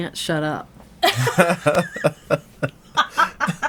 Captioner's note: all laughing